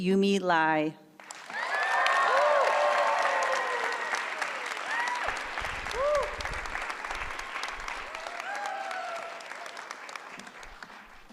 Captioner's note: applause